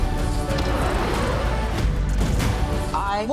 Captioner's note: revs engine, tires spin